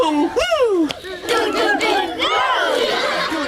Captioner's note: laughter